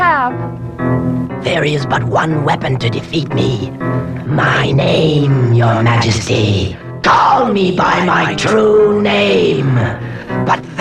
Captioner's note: echoes